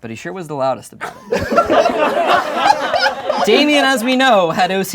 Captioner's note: laughing